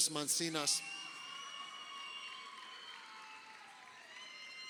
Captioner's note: crowd cheering